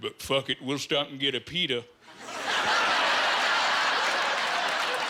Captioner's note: laughing